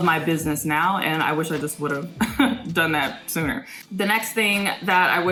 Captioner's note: laughs